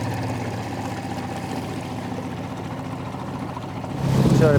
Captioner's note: boat engine humming